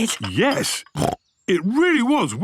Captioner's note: snorts